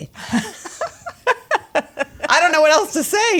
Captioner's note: laughing